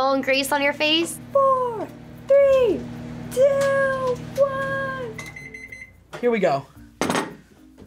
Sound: microwave beeps

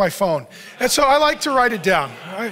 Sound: audience laughs

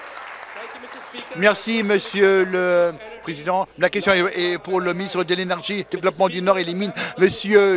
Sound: cheers; applause

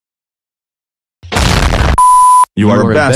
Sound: explosion

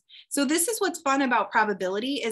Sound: none

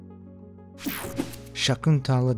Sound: graphic whirring

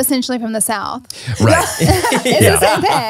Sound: everyone laughs

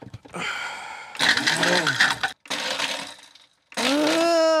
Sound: blender whirring

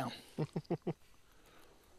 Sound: laughter

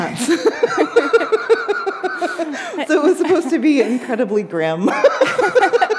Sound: laughter

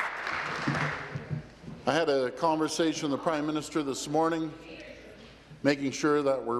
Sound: applause

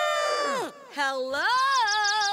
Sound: birds chirp

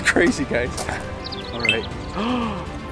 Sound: birds chirping; phone notifications

